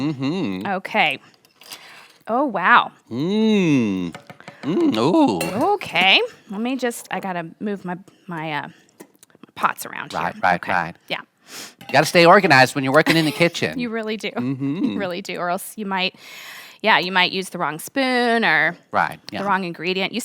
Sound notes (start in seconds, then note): 1.4 spoon clatters; 4.1 tapping spoon on pot; 5.4 lid clatters; 14.0 laughs